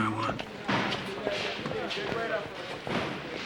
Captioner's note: indistinct chatter